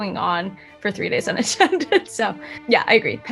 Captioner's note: laughs